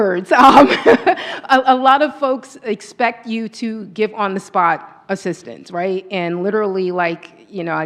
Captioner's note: laughs